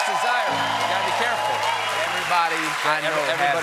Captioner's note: cheers and applause